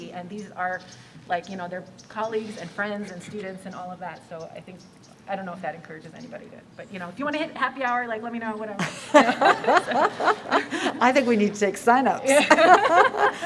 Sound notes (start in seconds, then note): 8.8 laughter